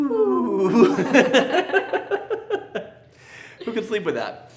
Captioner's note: laugh